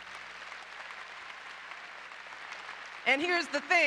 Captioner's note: applause